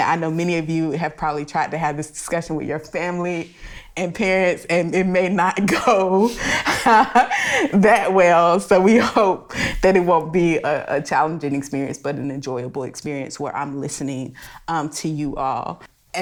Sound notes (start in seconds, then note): 5.6 laughs